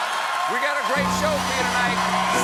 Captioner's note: cheers and applause